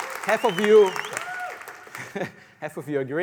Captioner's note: applause